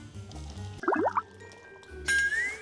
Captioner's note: drip